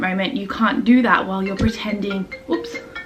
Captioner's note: phone rings